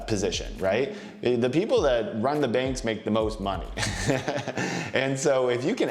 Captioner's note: chuckles